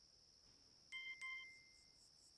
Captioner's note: phone notification beeps